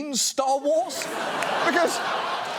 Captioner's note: studio audience laughs